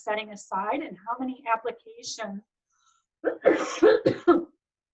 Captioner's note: coughs